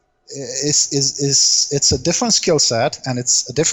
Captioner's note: laugh